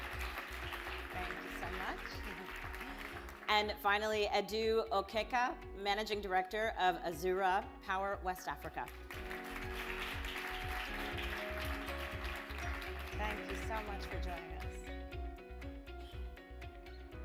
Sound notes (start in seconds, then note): 0.0 audience applause; 13.2 audience applause